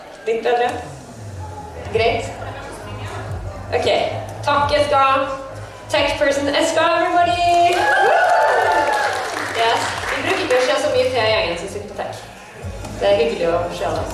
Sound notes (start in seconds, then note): 7.7 applause